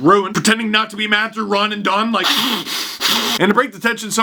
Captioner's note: heavy breathing